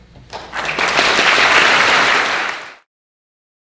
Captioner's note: audience clapping